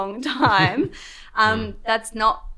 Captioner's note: chuckles